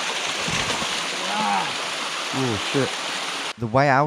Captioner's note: water crashing